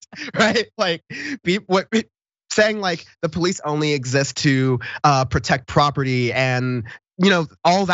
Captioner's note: laugh